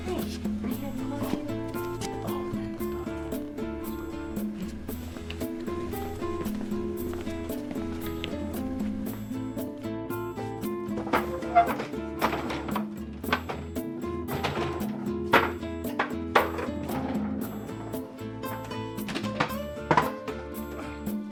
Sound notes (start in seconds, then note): 0.5 speaks faintly; 10.8 chair thuds; 11.1 trashcan clatters; 15.5 mop clatters